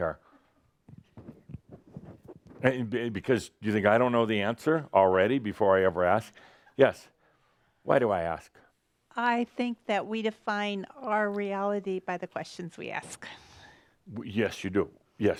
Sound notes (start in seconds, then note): none